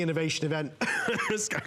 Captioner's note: coughing